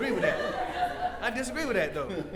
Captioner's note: audience laughs